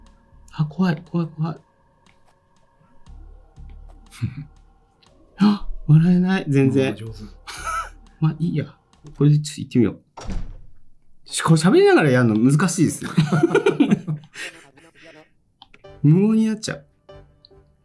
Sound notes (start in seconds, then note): 7.4 laughs; 13.0 laughs